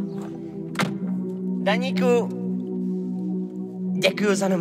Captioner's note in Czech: třísknutí dveří, páč sme to fakt nahrávali v autě hernajz